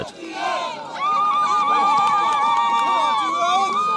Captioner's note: crowd noise